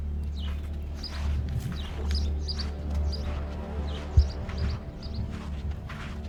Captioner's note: birds chirping